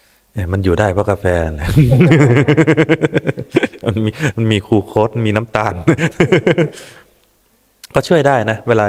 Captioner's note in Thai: เสียงหัวเราะ